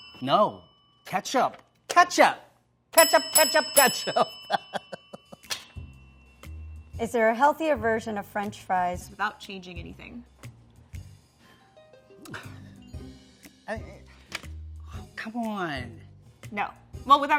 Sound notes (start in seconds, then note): 0.0 bell ringing; 2.9 bell ringing; 4.1 laughs; 12.2 sighs